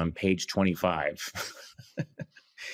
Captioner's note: chuckles